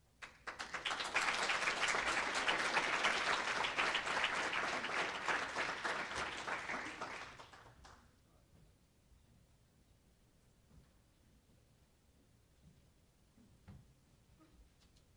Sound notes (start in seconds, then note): 0.1 applause